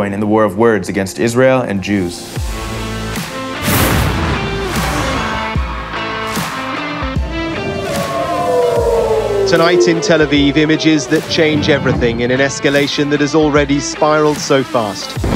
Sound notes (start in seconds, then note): 7.3 siren ringing